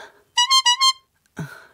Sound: message tone

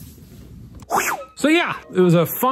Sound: whooshing

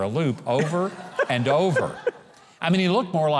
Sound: laughing

